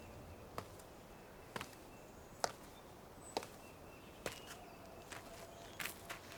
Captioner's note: birds chirping; birds continue chirping; footsteps plodding